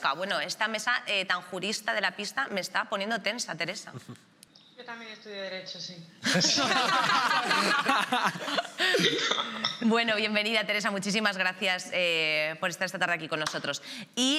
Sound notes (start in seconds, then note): 6.2 laughter